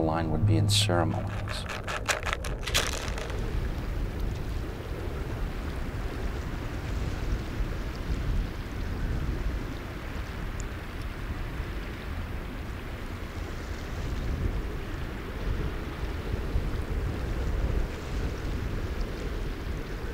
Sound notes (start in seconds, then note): 4.5 light wind blowing,</font> <font color="#00ff00">water flowing